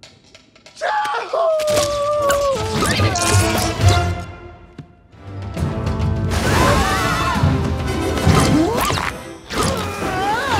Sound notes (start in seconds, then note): 2.2 hook zaps; 7.9 fast suspenseful music; 8.4 hook zaps